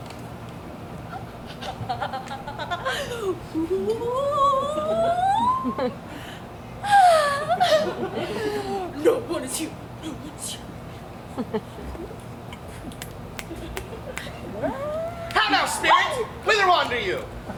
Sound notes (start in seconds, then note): 2.9 fairy vocalizing excitedly